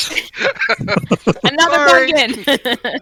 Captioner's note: laughter